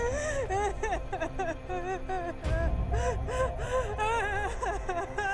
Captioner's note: Emma sobbing